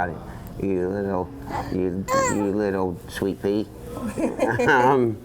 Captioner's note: baby grunt